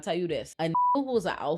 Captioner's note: beep